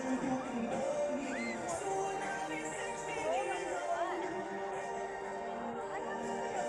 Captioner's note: people chattering